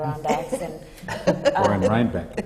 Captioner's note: laughter